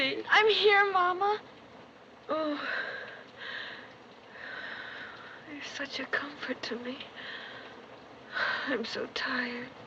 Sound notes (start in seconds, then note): 2.4 sighing